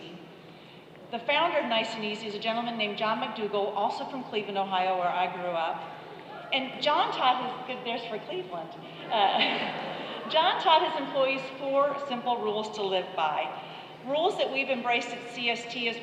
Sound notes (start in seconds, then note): 8.0 slight applause